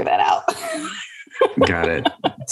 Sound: laughs

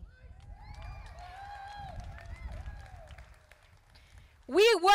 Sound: crowd applauding

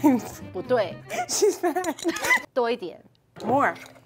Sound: speaking in mandarin

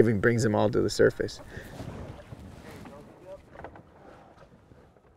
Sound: faint chattering

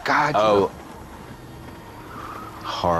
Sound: tires skidding

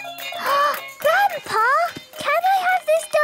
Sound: upbeat music; gasps

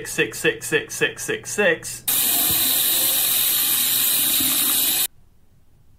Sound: water running

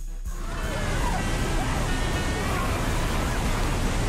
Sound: water splashes

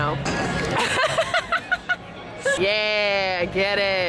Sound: laughing

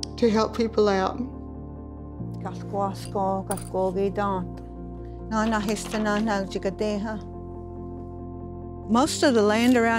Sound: Speaks Cherokee to students

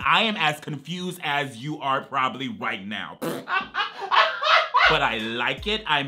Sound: laughs

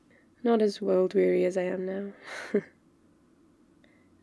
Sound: laughs

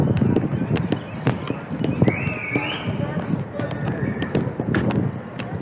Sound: whistle blowing again

